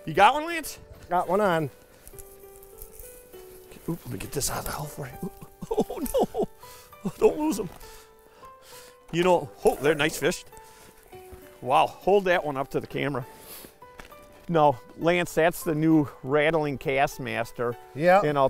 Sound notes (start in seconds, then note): 5.2 laughter